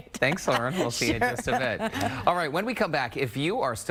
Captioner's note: laughter